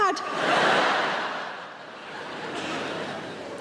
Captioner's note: audience laughing